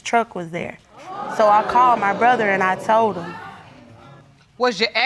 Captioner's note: crowd gasping